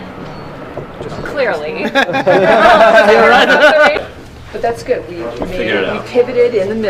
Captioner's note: laugh